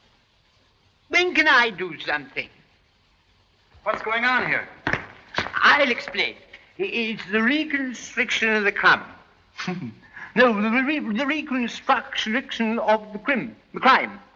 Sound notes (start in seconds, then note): 9.5 snicker